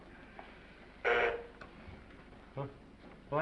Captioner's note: bell buzzes